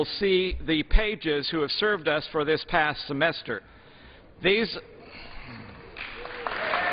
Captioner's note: applause